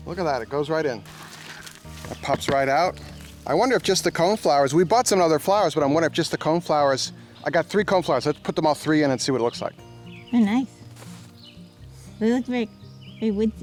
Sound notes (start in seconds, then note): 1.3 tapping